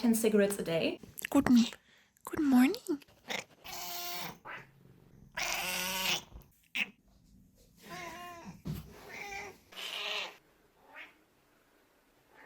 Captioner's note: cat screaming montage